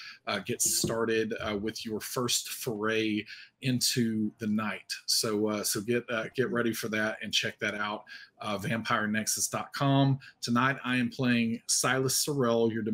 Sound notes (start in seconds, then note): none